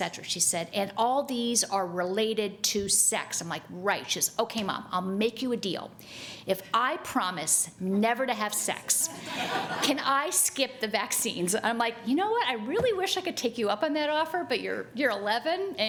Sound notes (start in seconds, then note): 9.1 audience laughing